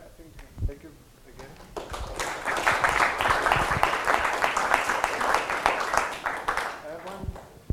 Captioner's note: applause